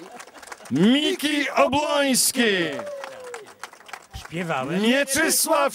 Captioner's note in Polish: Aplauz